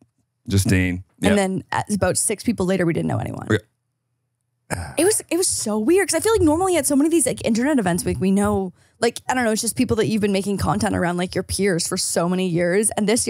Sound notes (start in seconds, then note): 6.2 laughs